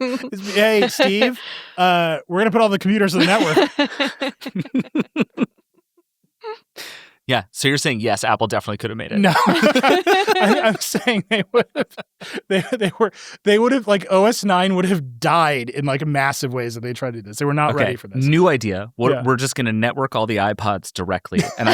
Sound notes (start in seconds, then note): 3.1 everyone laughs; 9.2 everyone laughs; 13.0 laughs